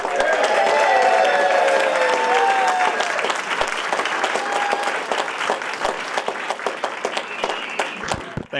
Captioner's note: applause and Cheering